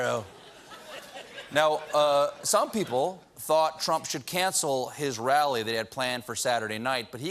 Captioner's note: laughter